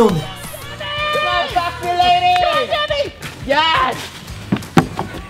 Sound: cheering

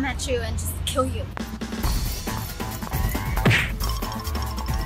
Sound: action sound

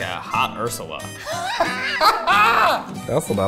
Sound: laughs

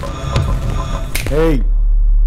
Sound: snaps

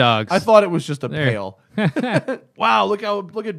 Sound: laughter

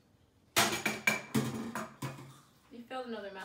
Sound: bowl drops in the sink

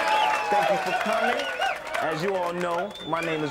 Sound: audience applauding

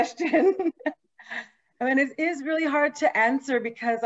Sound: laughing

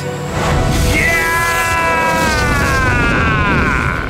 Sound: Ace shouts

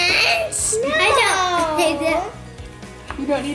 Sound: laughs

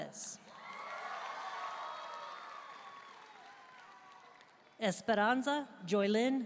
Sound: audience cheering and applauding

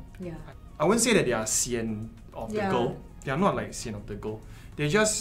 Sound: tired

